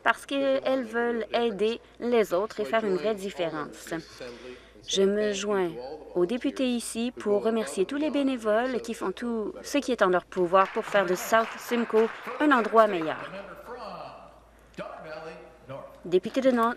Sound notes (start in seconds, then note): 13.4 some Applause